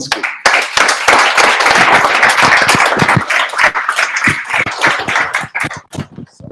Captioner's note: applause